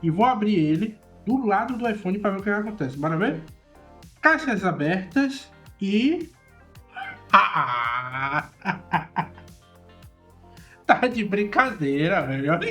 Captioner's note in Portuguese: risadas